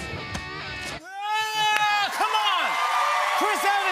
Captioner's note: cheers and applause